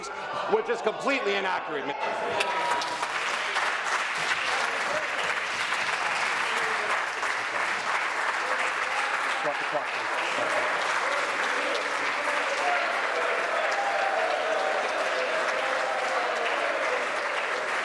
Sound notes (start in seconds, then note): 6.5 applause